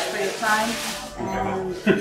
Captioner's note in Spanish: Voces en la tienda